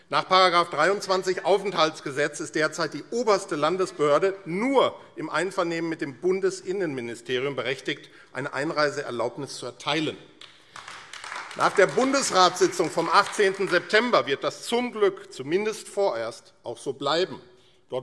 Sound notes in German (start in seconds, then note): 10.4 Beifall AfD